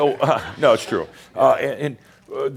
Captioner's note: he chuckles